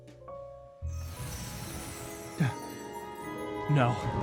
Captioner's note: magical noises